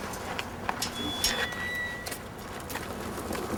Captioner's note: gate squeaks open